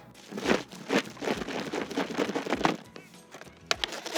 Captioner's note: board falling